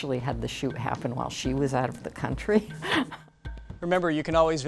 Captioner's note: laughs